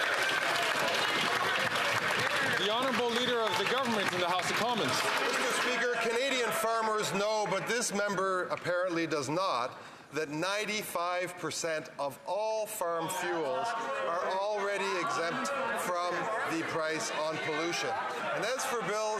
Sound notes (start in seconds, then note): 5.4 some Applause